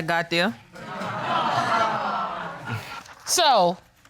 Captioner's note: audience titters